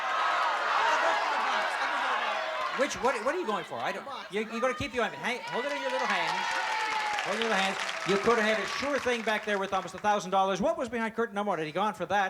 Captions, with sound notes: - I'll go for the box. I'll go for the box. - Which-- what are you going for? I don't-- - The box. - You're going to keep the ointment. Hold it in your little hands. [cheering] Hold it your little hands. You could have had a sure thing back there worth almost $1,000. What was behind curtain number one had he gone for that?